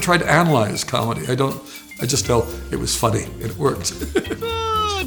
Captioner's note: laughs